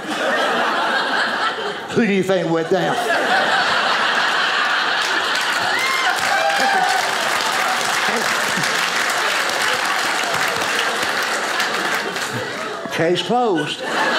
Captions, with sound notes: (audience laughing) Who do you think went down? (audience cheers) Case closed.